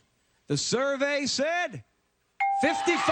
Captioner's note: ding